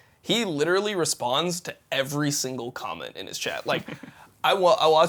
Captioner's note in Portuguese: risos